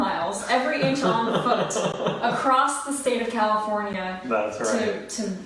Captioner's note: laughing